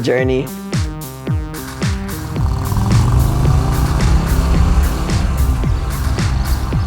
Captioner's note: sound of motorcycle, ♫ ♫